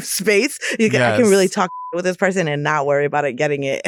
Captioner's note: beep